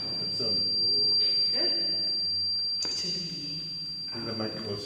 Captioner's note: microphone screeching